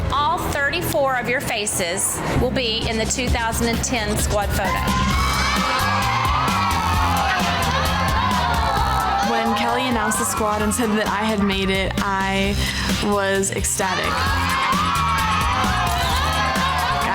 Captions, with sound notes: all 34 of your faces will be in the 2010 squad photo. (women cheering) (upbeat music) - When Kelli announced the squad and said that I had made it, I was ecstatic. (women cheering) (upbeat music)